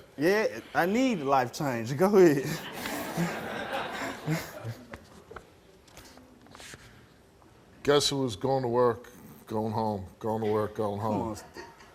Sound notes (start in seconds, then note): 2.2 laughing